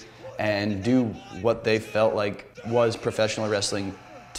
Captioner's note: audience cheering